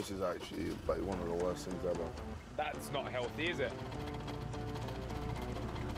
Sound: engine stutters

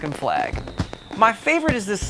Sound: fireworks

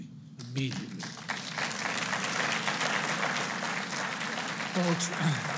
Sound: applause

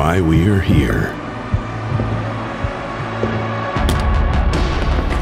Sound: footsteps echoing; dramatic music

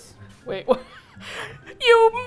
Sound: laughs

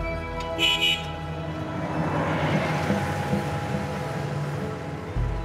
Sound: car horn honking

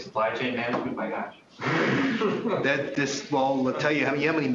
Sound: laughter

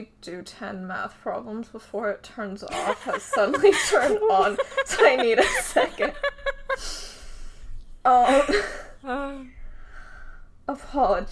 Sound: laughs

